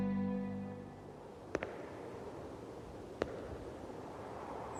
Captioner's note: serene music fades; footsteps echo